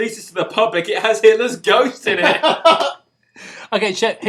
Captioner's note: laughter